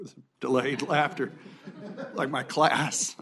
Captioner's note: laughter